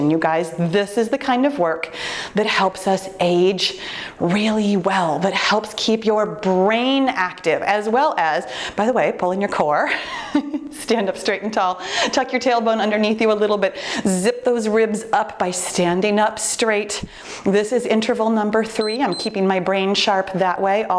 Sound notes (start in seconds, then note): 18.7 timer beeps